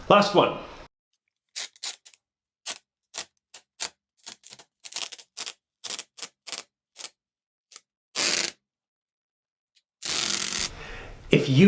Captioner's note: pulling or ripping sound